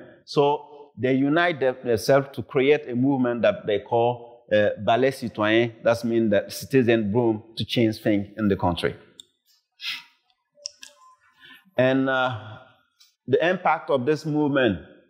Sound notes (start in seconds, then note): 4.3 speaks foreign language